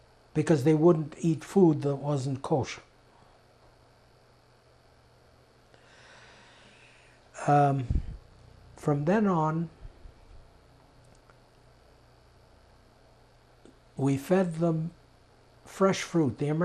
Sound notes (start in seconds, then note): 2.7 pauses 6 seconds